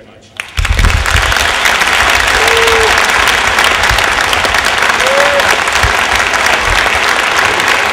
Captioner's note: applause